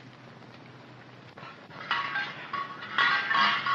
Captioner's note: tins clanking